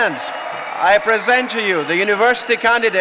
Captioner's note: applause